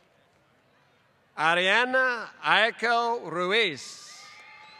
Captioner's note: applause